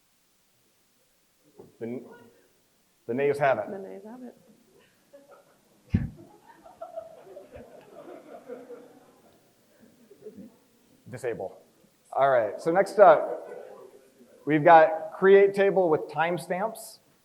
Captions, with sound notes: The nays have it. - The nays have it. (crowd chuckles) - Disable. All right, so next we've got create table with timestamps.